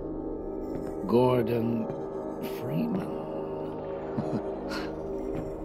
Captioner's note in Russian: усмехается